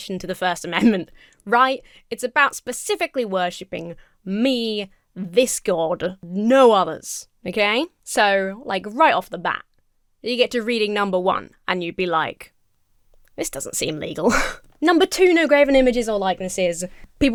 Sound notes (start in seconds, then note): 14.2 chuckles